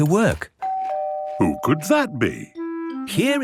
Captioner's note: doorbell ringing